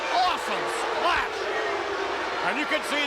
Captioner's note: crowd boos